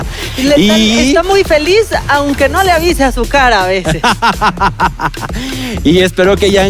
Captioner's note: evil chuckle